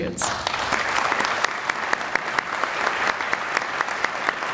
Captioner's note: audience applauding